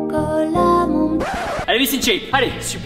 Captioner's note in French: Scratch